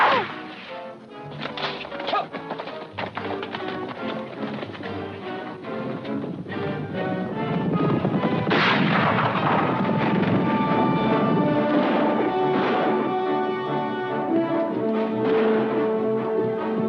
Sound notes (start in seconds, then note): 1.7 música emocionante; 8.8 golpes de arma; 10.9 golpes de armas; 10.9 música emocionante